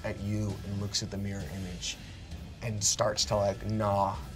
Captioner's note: none